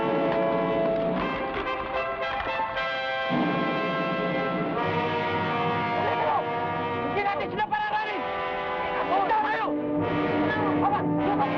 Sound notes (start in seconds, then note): 0.0 adventurous music; 0.0 horse hooves patter; 6.4 men shout in Tagalog